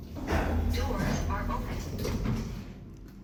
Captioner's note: doors are opening